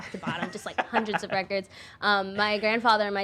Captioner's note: laughing